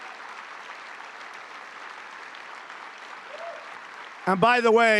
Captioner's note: applause